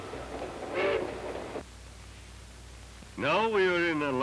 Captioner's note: train rolling along tracks; train whistle blowing